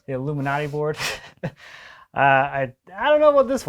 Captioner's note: man laughs